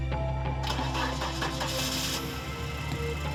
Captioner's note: car engine starts